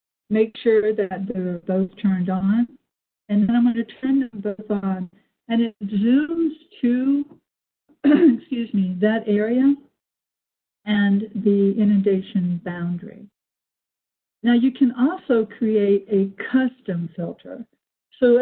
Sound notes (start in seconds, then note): 8.0 clearing throat